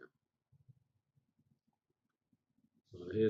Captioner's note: pause